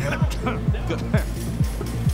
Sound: coughs

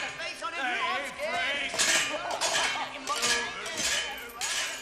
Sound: laughing

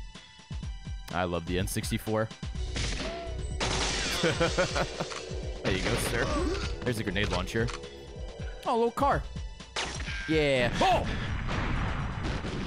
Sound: laughs

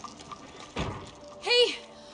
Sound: window shuts

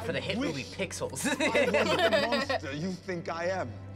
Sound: both laugh

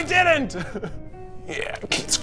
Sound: laughs

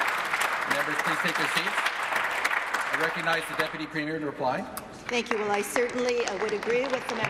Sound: applause

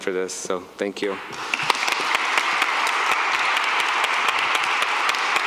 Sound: applause

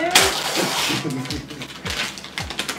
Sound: giggles

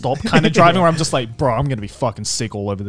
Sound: laughing

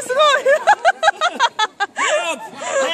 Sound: laughs

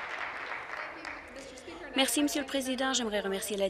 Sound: applause

